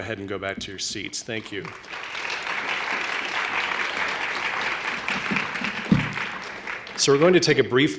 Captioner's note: applause